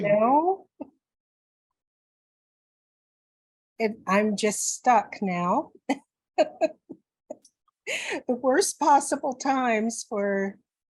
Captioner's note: laughs